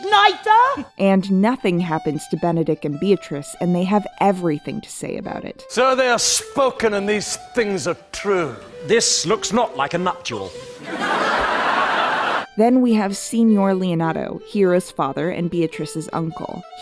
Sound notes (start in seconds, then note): 10.8 laughter